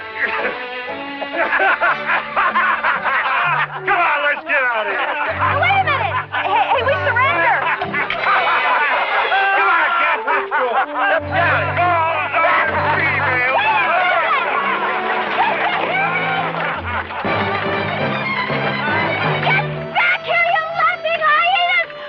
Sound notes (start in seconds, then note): 0.1 laughing; 8.0 men laughing; 14.2 men laughing; 17.5 bright music